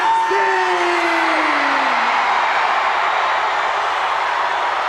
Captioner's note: crowd cheer